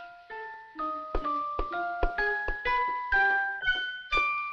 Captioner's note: fingers tapping